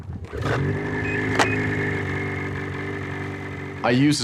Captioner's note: engine starts